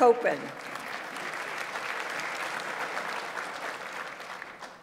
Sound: audience applauds

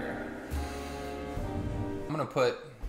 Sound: inhale

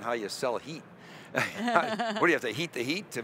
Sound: chuckling

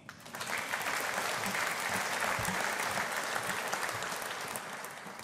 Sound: audience applauding

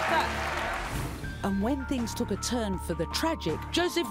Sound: voiceover

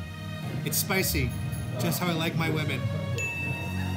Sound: ding

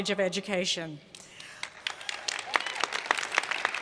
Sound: cheers and Applause

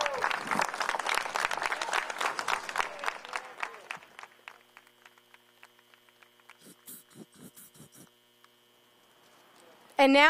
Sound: applause

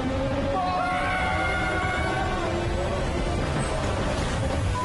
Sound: both screaming

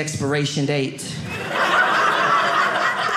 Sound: audience laughing

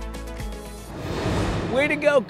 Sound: air whooshing

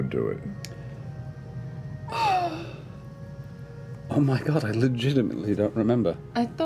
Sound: sighs

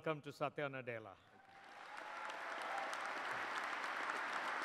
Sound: applause

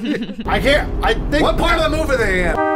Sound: chuckle; car noises

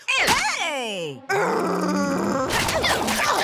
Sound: shrieking; growling

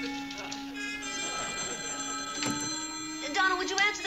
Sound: phone rings

